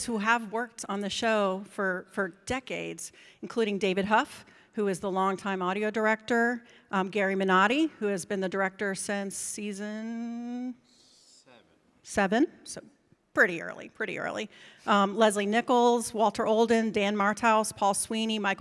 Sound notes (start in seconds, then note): none